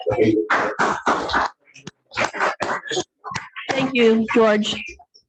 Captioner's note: congregation clapping